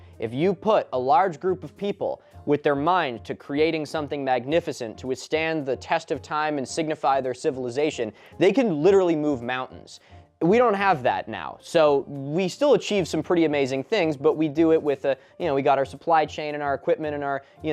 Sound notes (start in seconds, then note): none